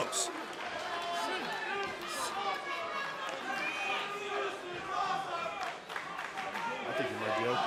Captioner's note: crowd cheering